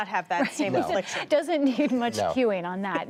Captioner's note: laughter